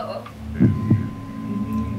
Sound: deep voice

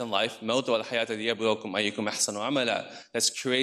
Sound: speaks in foreign language

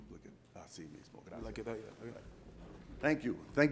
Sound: speaks Spanish

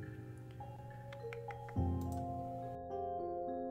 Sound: thinking Tongue Clicks

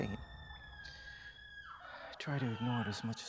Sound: distant screaming

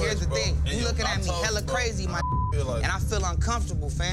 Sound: beep

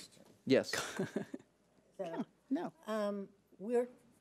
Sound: laughs

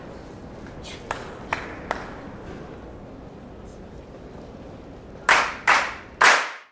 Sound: whispered; clapping

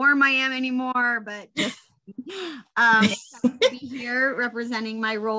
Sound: laughing

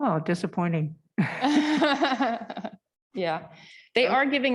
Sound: laughter

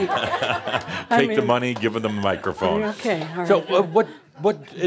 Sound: chuckling; laughter

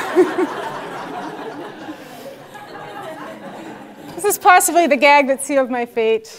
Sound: laugh

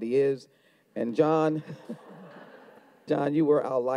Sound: audience laughs

